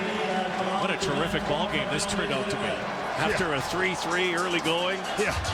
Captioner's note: cheering and Applause